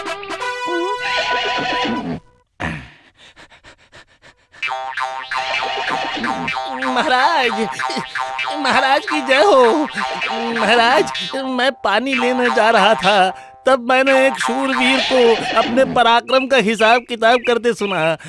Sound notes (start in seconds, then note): 1.0 horse whinnying